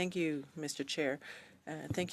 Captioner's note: speaking in French